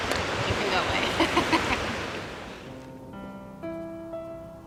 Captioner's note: laughs